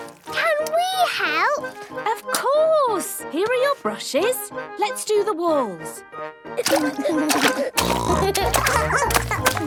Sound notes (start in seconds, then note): 6.2 barking; 6.2 giggling; 7.1 snorting